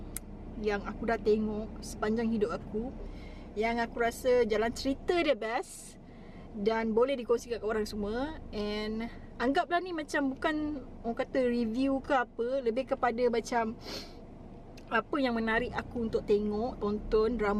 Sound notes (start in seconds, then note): 13.8 sniffle